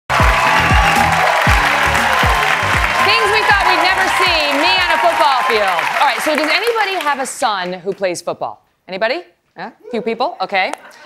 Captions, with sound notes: [ APPLAUSE ] >>> THINGS WE THOUGHT WE'D NEVER